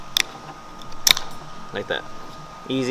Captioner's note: clip clicking